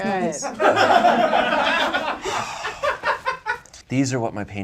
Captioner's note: audience laughs